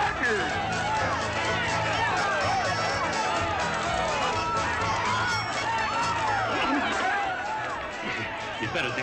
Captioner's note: festive chatter; lively music